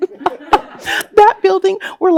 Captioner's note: laughs